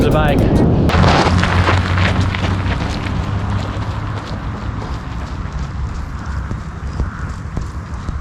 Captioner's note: ridicolous running sounds